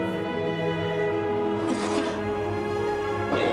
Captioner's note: man coughs, gags